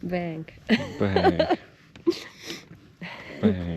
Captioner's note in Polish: śmiech